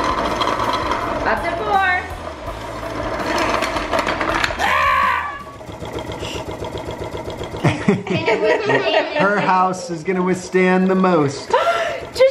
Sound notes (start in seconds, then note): 4.8 yelling; 6.0 rattling; 7.6 laughter